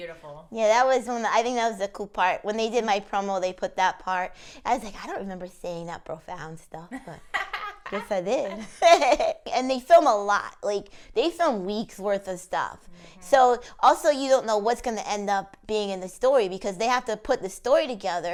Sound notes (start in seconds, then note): 6.9 laughs